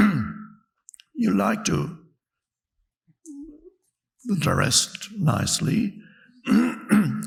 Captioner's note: clears throat; clears throat